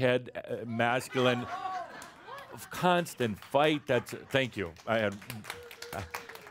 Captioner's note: laughter; some applause